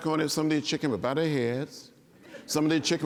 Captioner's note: laughter